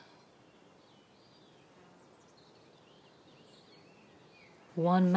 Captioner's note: birds chirping